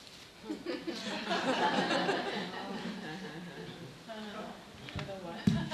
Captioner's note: murmuring and laughing